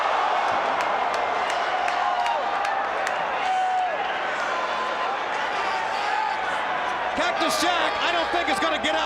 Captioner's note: crowd cheering